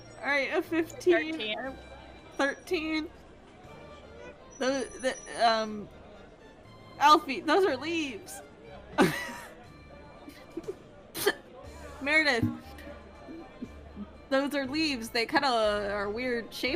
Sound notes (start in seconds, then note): 9.0 laughs